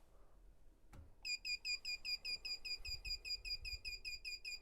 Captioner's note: steady beeping